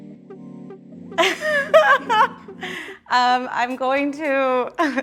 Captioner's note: gentle music; laughs